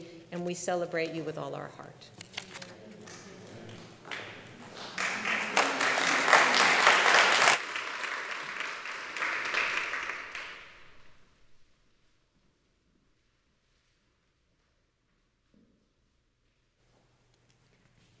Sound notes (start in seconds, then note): 3.7 congregation applauds